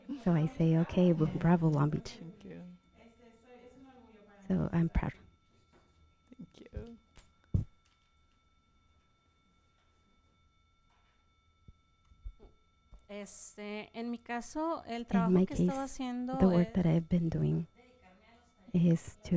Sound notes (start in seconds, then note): 13.5 panelist speaking in Spanish